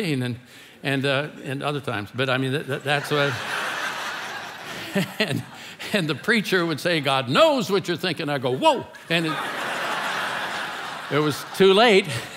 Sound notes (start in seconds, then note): 2.7 congregation laughing; 2.9 laughing; 9.0 congregation laughing